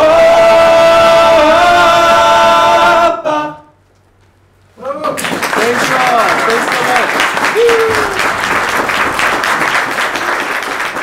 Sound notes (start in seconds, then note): 4.9 applause and cheering